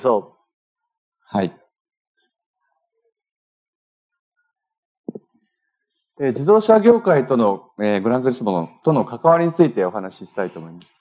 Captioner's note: speaking japanese